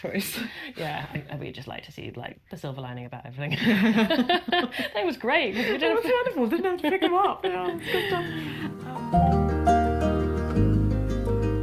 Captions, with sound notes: - Not like you had a choice. - Yeah. We just like to see like the silver lining about everything. (everyone laughs) That was great. - Didn't have to pick them up. (gentle music)